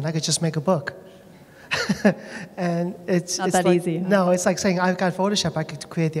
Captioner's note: laughter